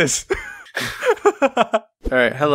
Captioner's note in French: rigole